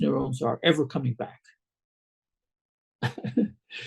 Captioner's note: laughs